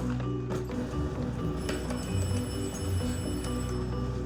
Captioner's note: doorbell rings